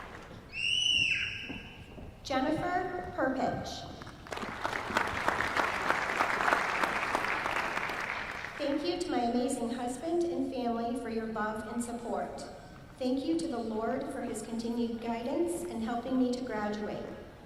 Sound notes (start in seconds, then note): 4.0 applause